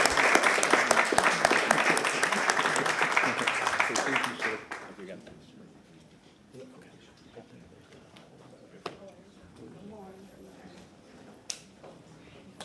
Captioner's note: applause